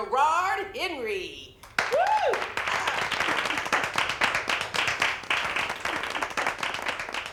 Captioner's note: crowd clapping